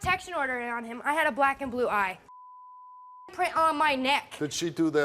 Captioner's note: beep